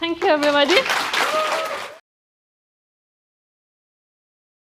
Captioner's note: applause